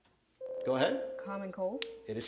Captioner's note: buzzer sounds